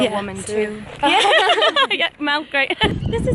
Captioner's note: laughter